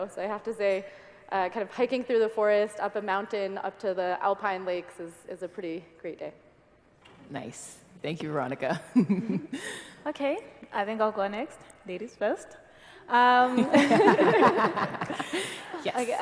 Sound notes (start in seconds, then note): 12.5 laugh